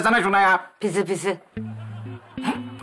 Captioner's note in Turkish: Gülme efekti